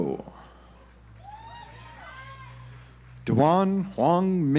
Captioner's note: audience applauds